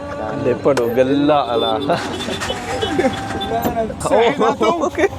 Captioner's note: laugh